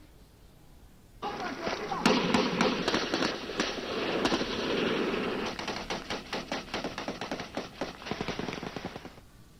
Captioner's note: gun shots